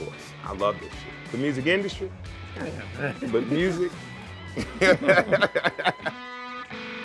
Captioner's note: laughs